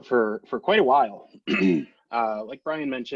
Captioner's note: clears throat